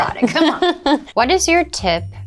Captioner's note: laughs